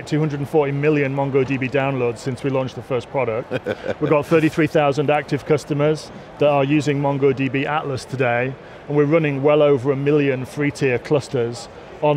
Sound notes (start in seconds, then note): 3.4 chuckles